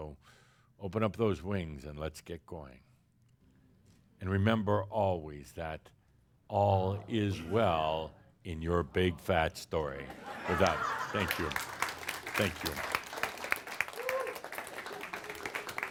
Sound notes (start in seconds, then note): 10.0 laughter; 10.4 audience applause